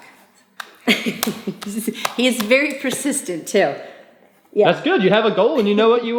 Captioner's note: laughing